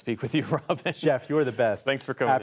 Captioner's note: laughter